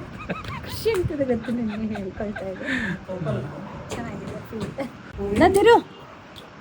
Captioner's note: laughs